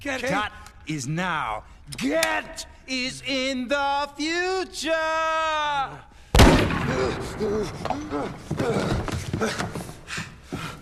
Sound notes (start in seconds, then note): 0.0 stuttering; 6.9 gasping